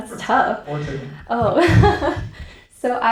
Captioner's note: chuckles